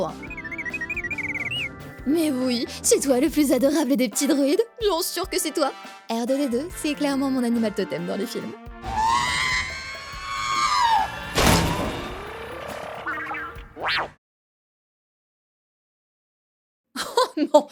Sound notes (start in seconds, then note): 0.2 robotic pious pious; 8.8 R2-D2 screams